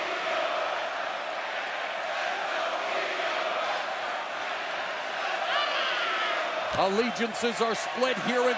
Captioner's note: crowd cheering